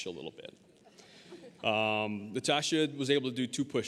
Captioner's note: audience laughing